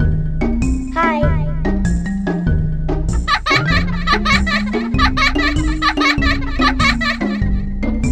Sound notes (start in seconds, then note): 3.1 child Laughing